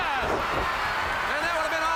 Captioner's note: crowd cheering